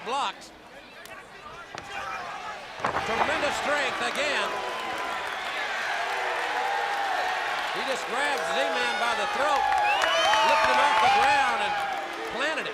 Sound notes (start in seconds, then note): 9.4 crowd cheering